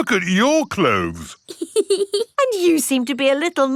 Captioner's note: laughs